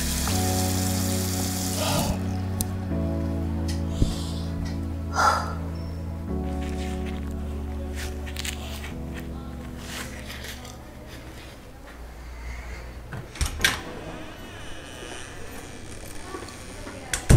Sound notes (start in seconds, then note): 5.0 Mary sighing; 6.4 paper towel crinkling; 13.1 door creaking; 13.2 door clicking; 17.1 door banging